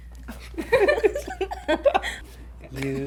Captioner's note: laughs